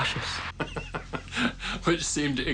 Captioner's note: laughs